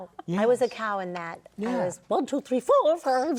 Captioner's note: laughing